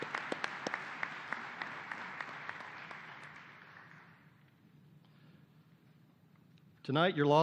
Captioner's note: applause